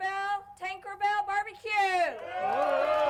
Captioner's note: crowd cheering; crowd applauding